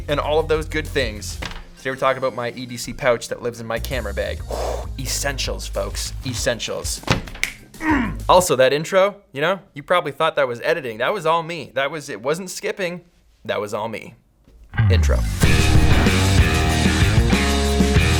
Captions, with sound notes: and all those good things. Today, we're talking about my EDC pouch that lives in my camera bag. (exhales) Essentials, folks, essentials. (snaps) Mmm! Also, that intro you know, you probably thought that was editing. That was all me, it wasn't skipping, that was all me. Intro. (rock music)